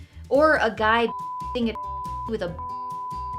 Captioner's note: beep